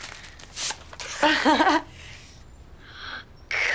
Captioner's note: laughs